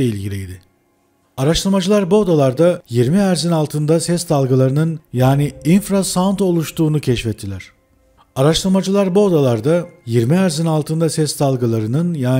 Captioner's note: infrasound